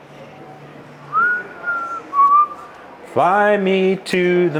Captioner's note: whistling